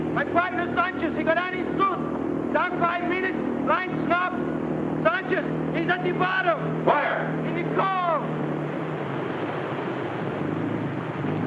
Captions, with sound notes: My partner, Sanchez, he got on his suit! Gone five minutes! (muffled shouting) Sanchez, he's at the bottom! - Where? - In the cove!